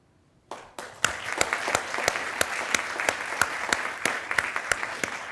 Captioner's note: attendees applauding